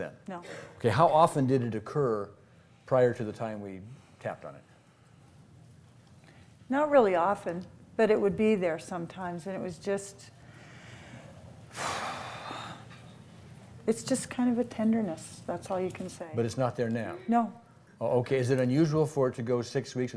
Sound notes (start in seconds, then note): 11.7 sighs